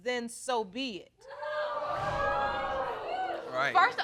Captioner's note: audience exclaiming